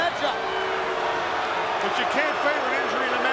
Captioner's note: crowd booing